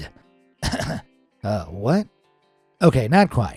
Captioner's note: throat clearing